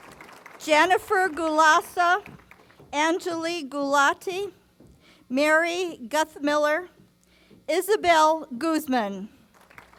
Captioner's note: applause; applause